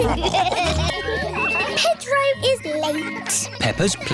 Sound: all laughing; kids giggling

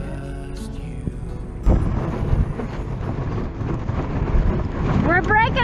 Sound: wind whooshes

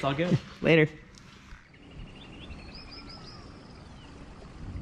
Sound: birds chirping

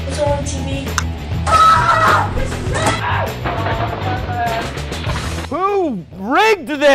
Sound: screams

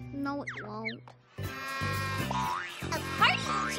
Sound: toot!!

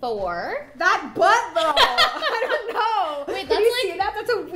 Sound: laughing

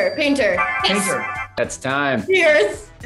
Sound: timer chiming

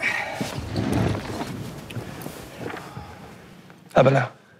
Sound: chair dragging

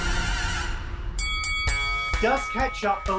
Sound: upbeat fanfare; bell rings three times

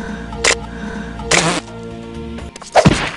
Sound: coconut cracks, spittle sound; smack

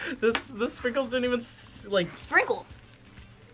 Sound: laughs

